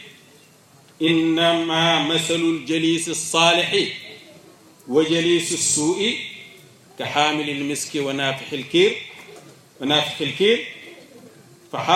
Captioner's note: quote in Arabic